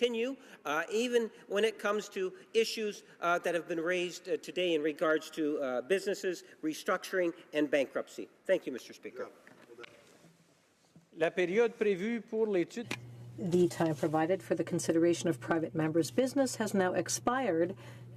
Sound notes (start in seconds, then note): 16.5 speaking French